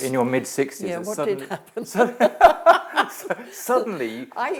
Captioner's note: both laugh